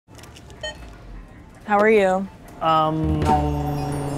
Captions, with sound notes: (scanner beeping) - How are you? - Umm....